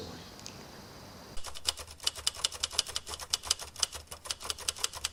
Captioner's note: typewriter clicking